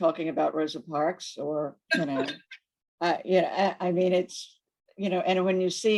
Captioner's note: laughs